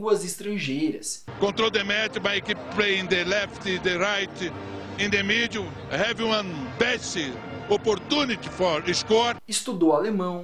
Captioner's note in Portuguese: Joel Santana falando inglês